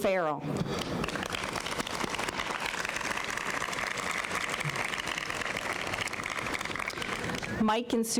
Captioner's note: applause